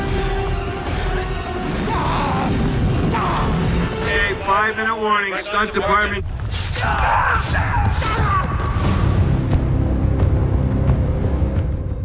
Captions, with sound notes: Okay, five minute warning stunt department. [soldiers screaming] [intense music]